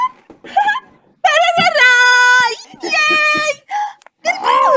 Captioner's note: speaking in Arabic